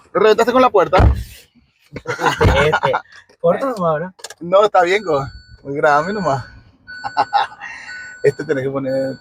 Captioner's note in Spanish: risas